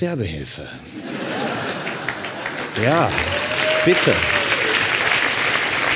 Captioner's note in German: Lachen und Klatschen